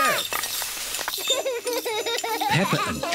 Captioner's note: laughs